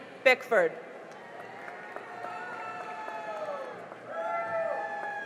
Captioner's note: cheering and applause